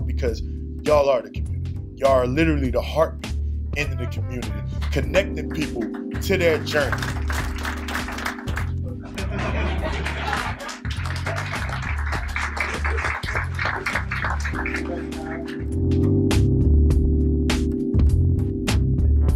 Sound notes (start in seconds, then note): 7.0 applause; 9.0 laughing; 16.2 soothing music